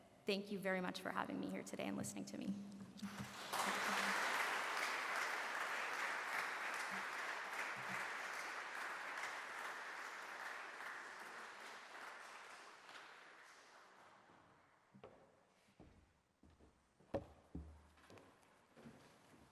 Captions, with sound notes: Thank you very much for having me here today and listening to me. [Applause]